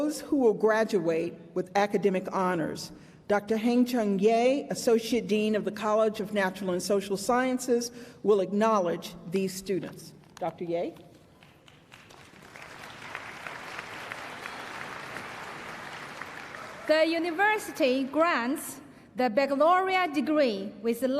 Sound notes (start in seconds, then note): 11.3 applause